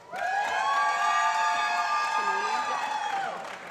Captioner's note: applause